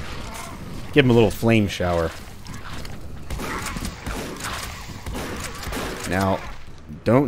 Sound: shotgun blasting

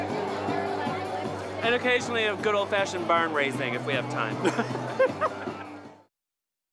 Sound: laughs

